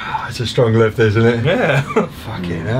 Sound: chuckles

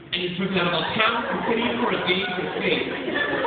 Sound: laughter

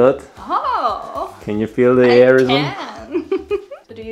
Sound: laughs

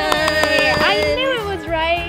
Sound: claps

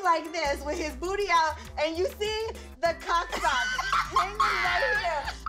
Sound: laughs

